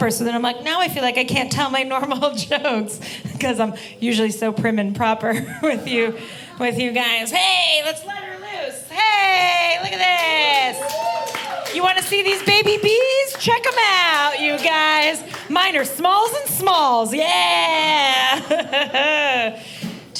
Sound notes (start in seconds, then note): 10.2 audience applauding; 18.1 laughing